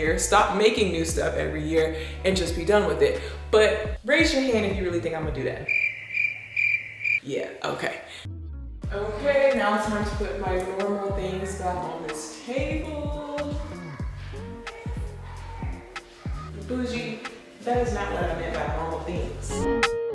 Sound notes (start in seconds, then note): 5.6 crickets chirping